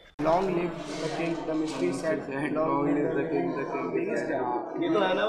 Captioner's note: overlapping student discussion